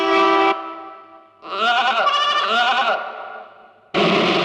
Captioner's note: train horn blares; sheeps bleating